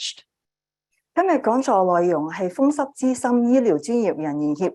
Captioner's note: speaking chinese